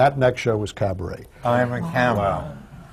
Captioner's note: murmurs from the audience